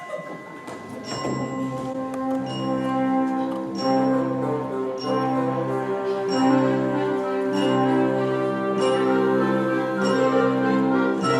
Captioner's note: the bell continues